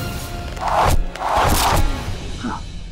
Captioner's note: swooshing